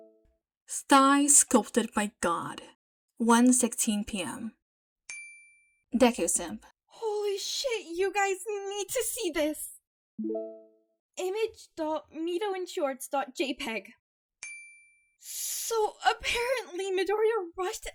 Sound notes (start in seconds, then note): none